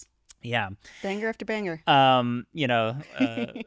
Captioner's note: chuckles